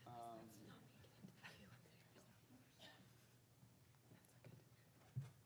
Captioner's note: speaking faintly